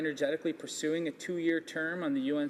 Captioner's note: speaking english